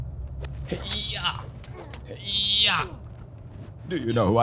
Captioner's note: grunting sounds